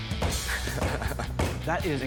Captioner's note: energetic rock music; fist banging